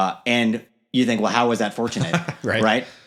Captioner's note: laughing